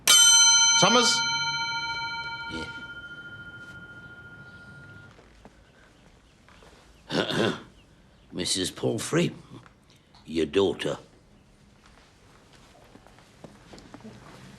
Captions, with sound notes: (bell dings loudly) Summers? - Yeah? (clears throat) Mrs. Palfrey, your daughter.